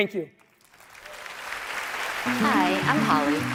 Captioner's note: applause